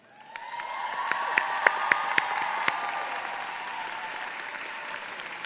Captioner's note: audience clapping and cheering